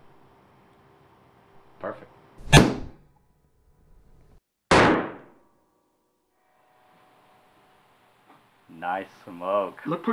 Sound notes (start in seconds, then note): 2.7 gunshot booming